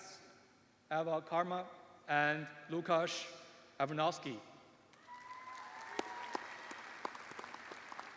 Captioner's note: cheers and applause